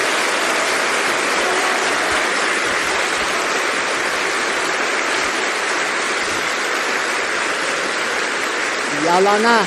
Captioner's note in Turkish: coşkulu alkış